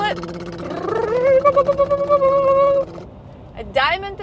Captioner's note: both imitating drum roll